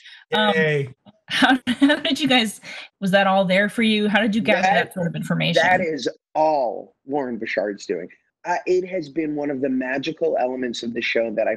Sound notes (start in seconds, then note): 0.3 laughing